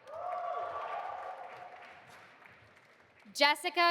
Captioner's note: audience applauding